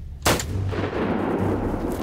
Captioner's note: intense music; gunshot